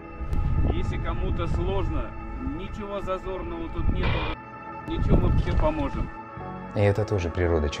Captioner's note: strong wind